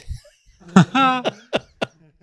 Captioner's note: laughing